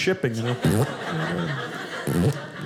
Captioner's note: audience laughing